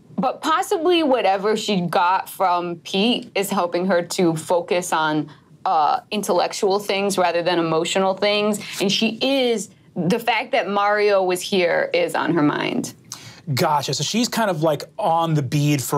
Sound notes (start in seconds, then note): none